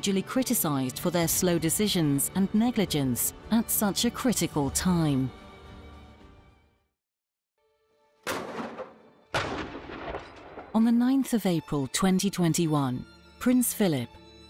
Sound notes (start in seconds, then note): 8.2 cannon fires